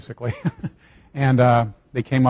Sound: laughing

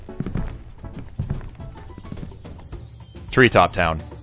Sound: footsteps on wood trailing off; jungle ambiance

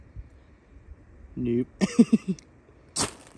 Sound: laughs

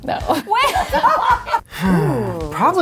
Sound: laughter

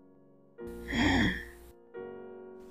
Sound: sighs

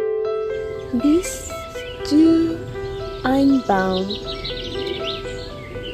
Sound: speaking german

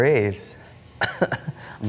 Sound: cough

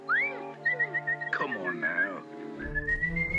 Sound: whistles

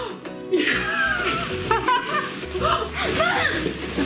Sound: laughter

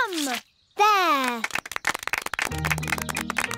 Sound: applause

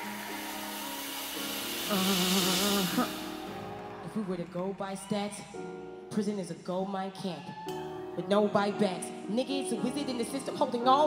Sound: applause

